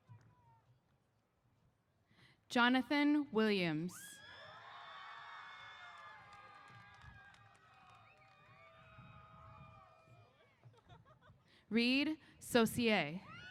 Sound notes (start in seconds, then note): 4.3 applause & Cheers